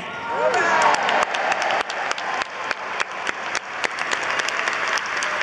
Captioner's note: audience applauds